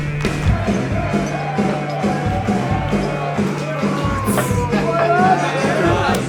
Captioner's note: rhythmic hard rock music; group shouting and chattering